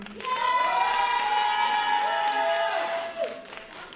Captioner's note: applause